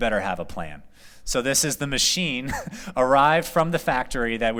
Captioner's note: laughter